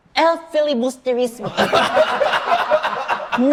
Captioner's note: everyone bursts into laughter